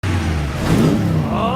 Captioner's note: engine Revs